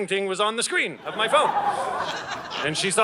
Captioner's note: audience laughing